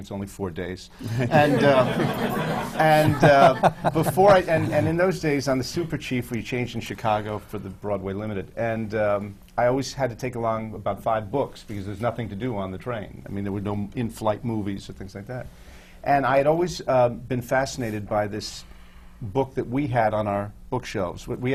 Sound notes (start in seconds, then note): 1.0 laughter